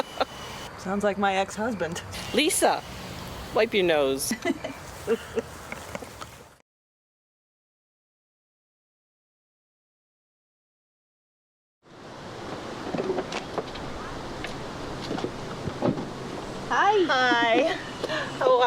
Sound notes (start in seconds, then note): 0.0 Gert laughs; 4.1 Alice laughs